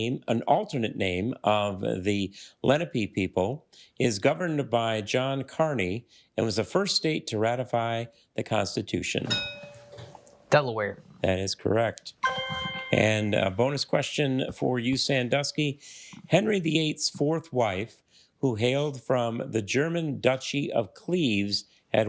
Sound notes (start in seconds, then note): 9.3 bell dings; 12.2 triumphant chime